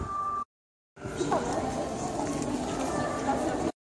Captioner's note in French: brouhaha